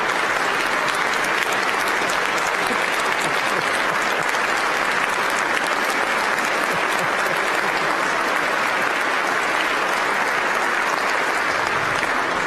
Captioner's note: applause